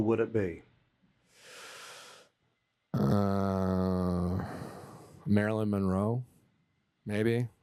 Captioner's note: deeply inhales